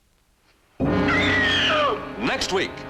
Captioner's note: screams